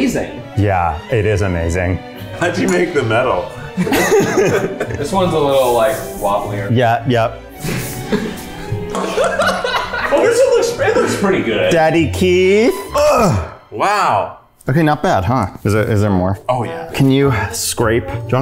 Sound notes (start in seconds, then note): 3.5 laughing; 7.6 laughing; 12.7 groans